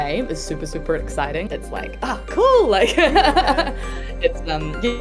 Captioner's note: laughs